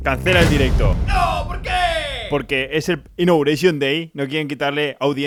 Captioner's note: noooo why ???